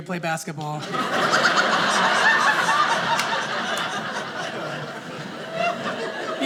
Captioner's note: audience laughing